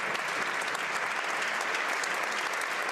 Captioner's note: applause